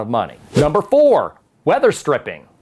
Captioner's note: letters whoosh